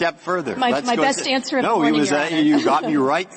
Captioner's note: laughter